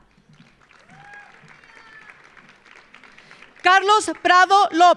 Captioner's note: audience applauding; audience cheering